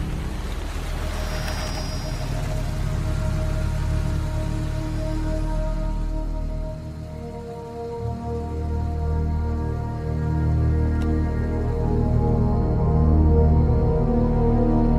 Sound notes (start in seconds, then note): 1.0 tires rumbling; 12.0 thrilling music